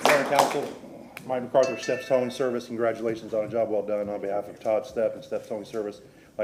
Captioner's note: applause